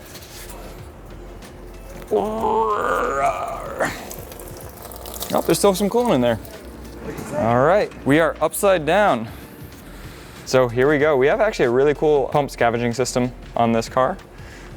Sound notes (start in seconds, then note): 2.0 grunts